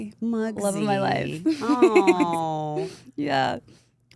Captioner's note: laughs